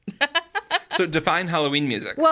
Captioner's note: laughs